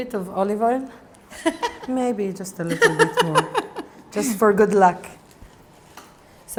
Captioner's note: laughs